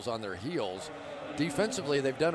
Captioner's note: none